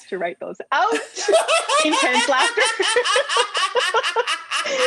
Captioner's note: laughter